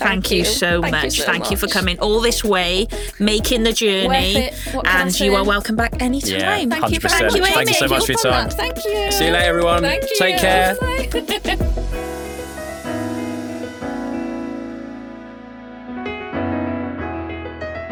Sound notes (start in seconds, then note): 11.1 chuckles; 11.4 gentle music